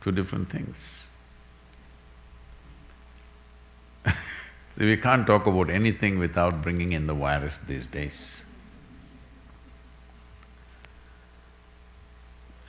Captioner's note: laughs